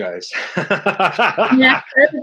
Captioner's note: chuckles